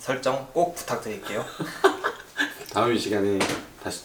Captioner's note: laugh